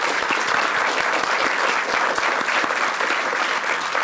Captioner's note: applause